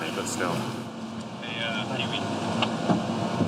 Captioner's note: indistinct chatter